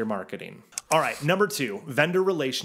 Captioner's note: mouse clicking